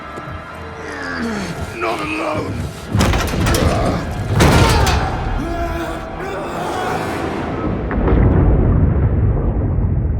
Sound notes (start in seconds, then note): 0.7 groaning